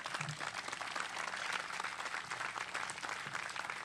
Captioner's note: applause